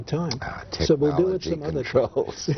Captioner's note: laughter